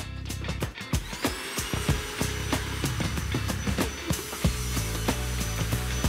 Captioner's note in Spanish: Ruido de la aspiradora